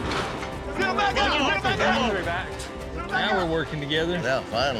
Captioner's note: all shouting, talking